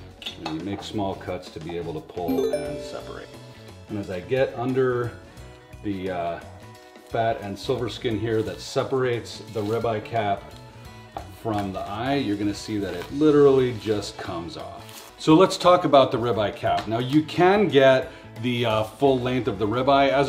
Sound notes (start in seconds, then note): 2.3 message tinkles